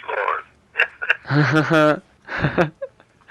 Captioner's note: laughter